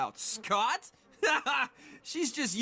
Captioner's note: Duncan Laughing